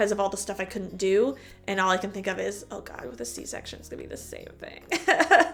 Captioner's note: chuckle